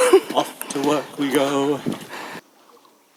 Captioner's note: laughter